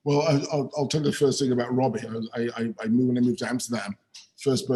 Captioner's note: chuckles